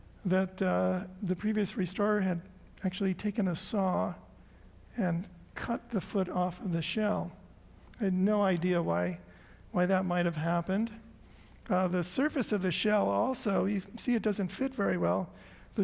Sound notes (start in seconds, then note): none